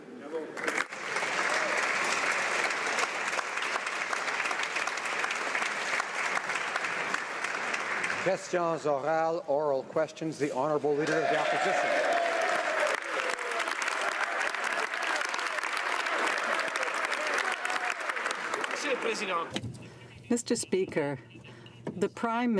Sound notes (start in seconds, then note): 4.2 some Applause; 16.0 some Applause